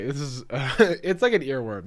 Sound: chuckles

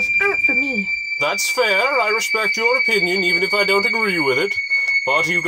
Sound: whistle

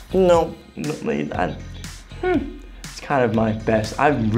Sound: stuttering

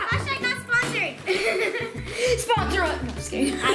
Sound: laughing

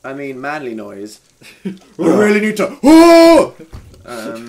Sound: roars like a man

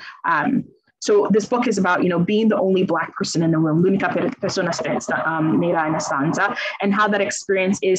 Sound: speaks in Italian

